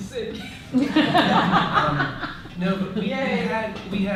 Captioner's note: laughter